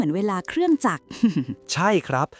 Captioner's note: chuckles